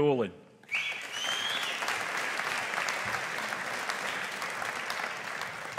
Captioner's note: audience applauding